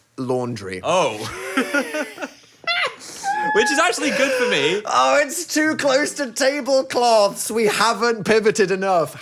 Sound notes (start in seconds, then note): 1.2 both laughing